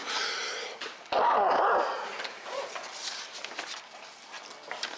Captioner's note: coughs